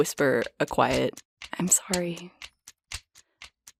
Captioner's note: whispering